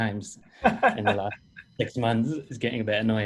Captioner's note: laughing